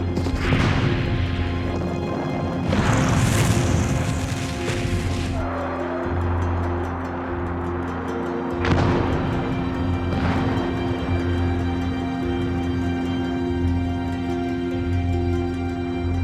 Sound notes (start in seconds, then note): 0.1 explosions roar; 8.6 explosion roars